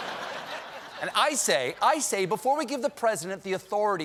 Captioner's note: laughter